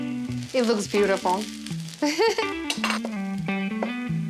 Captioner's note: laughs